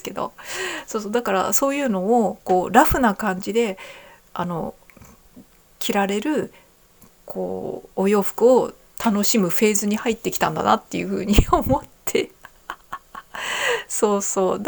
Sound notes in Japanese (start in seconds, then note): 12.2 笑い; 13.3 息をのむ音